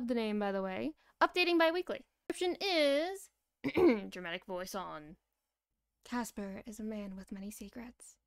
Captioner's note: ahem